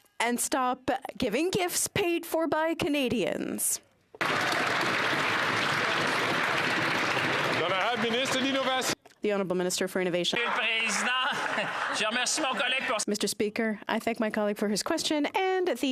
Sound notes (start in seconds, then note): 12.0 some Applause